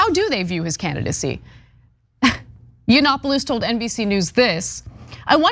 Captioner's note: laugh